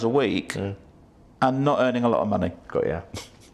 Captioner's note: laughs